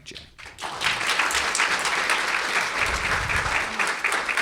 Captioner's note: audience clapping